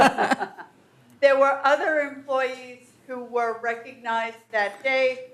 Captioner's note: laughter